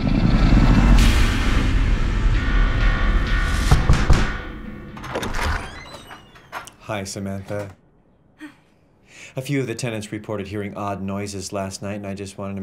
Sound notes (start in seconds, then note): 0.0 dramatic music; 3.2 loud knocking; 8.4 Sam sighs